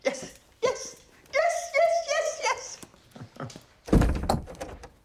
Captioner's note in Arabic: ضحكة مكتومة